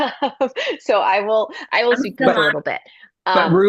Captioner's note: laughter